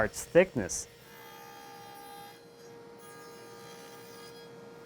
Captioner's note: saw buzzing